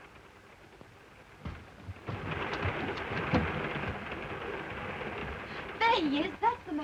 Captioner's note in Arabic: صوت خشخشة القطار